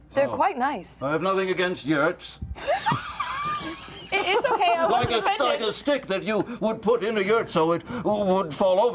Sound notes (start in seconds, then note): 2.6 laughs